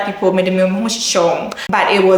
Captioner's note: speaking Twi